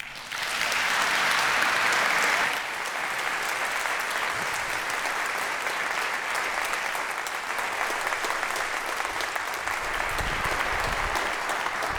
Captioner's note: applause